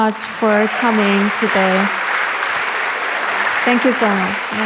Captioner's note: audience applauds